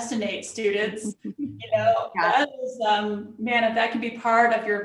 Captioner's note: laughter